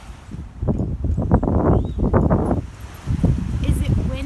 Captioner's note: wind blowing